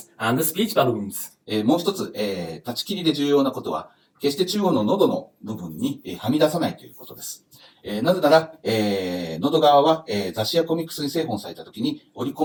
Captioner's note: speaking Japanese